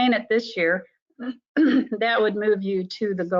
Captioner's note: woman clears throat